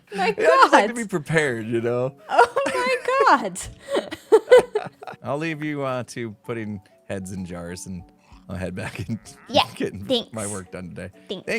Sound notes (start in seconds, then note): 3.7 BOTH laugh